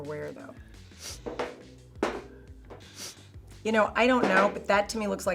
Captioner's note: Terry sniffing